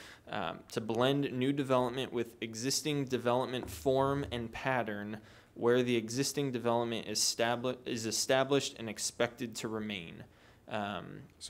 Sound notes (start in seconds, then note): none